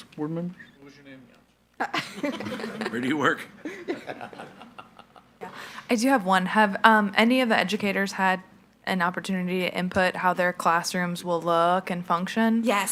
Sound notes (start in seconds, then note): 1.8 laughing